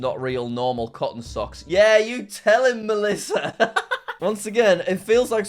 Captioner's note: laughs